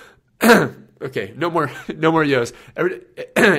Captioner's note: laughs